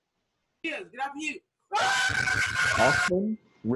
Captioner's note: cheers